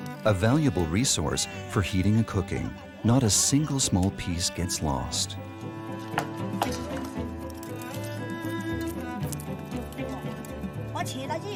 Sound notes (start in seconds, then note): 5.7 soft music; 5.7 speaking in foreign language